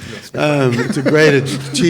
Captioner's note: panelists laughing